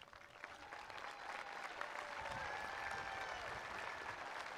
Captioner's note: attendees applauding